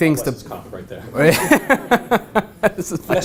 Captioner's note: laugh